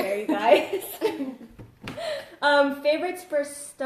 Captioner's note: laughs